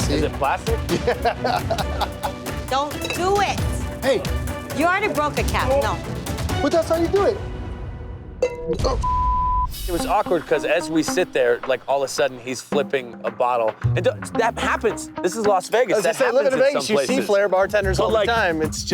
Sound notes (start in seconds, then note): 0.8 laughs; 8.9 beep